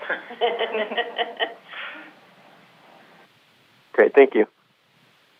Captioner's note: panel laughing